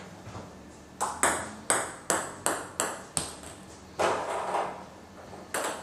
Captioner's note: ball ping pong hitting continues